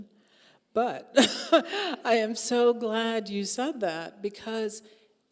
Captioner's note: chuckling